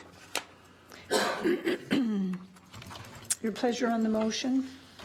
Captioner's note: clears throat